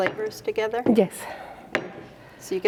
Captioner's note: stone pestle smacks